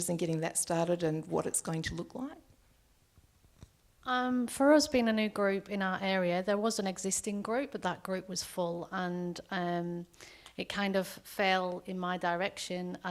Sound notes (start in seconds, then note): none